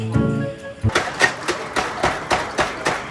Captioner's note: tap tap